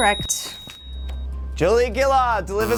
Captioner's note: bell ringing; buzzing